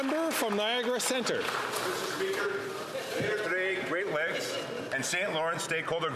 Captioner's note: applause